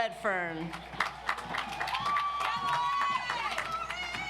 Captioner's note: audience applauds